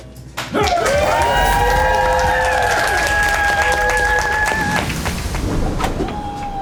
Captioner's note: crowd clapping and cheering